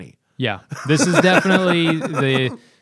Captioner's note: laughter